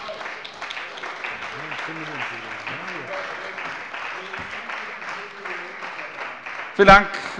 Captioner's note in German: Beifall bei der CDU und dem BÜNDNIS 90/DIE GRÜNEN